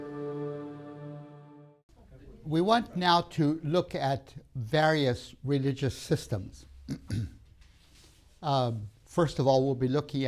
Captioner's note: clears throat